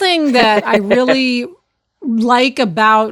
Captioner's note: chuckling